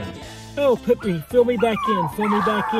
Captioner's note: puppy whines